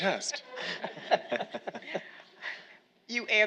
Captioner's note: all laughing